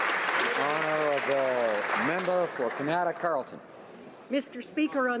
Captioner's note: applause